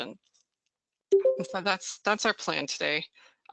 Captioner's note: beeps